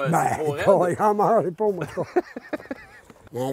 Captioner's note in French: rire